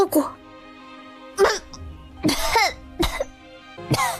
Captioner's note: coughs